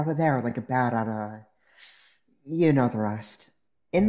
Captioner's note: pained inhale